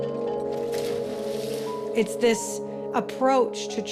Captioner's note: water splashing